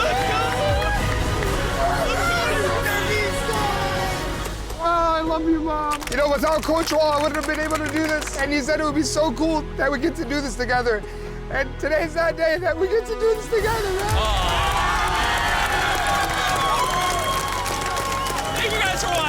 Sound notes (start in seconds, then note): 17.7 cheering